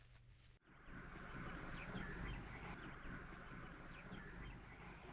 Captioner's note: birds chirping